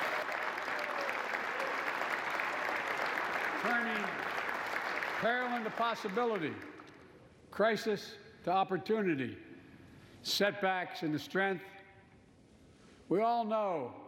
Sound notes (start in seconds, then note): 0.0 applause